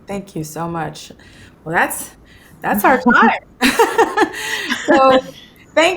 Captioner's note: laughs